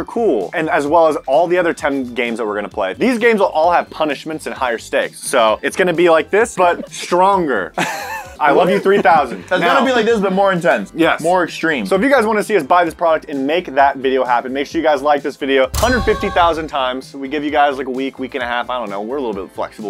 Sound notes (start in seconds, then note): 7.7 wheeze